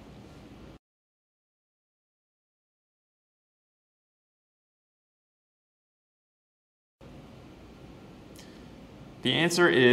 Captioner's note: pause